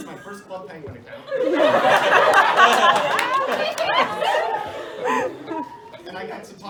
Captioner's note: laughter